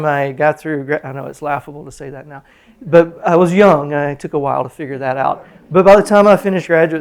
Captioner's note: laughter